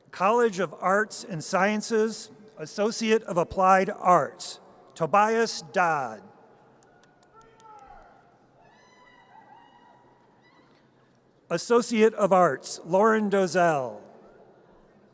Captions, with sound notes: College of Arts and Sciences, Associate of Applied Arts. Tobias Dodd. (audience cheers) Associate of Arts. Lauren Dozelle.